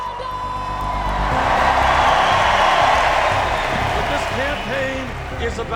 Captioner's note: crowd cheering Bernie Sanders